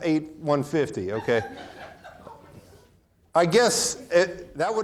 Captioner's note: audience laughing